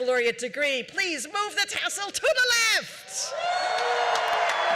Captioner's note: cheering